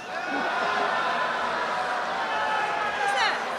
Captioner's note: laughter and cheering